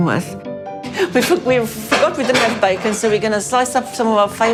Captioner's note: laughs